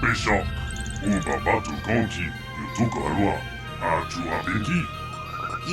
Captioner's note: this droid is speaking a language you do not recognize